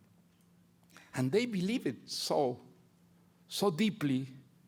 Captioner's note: none